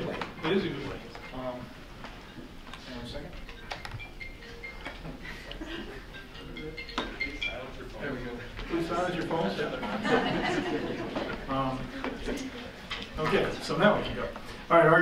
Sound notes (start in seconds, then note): 3.2 phone ringing; 9.6 laughing